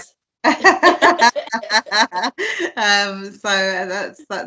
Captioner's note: laughing